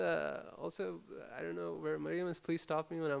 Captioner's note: murmurs